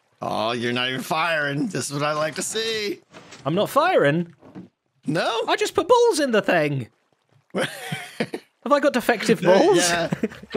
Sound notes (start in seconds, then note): 7.5 laughs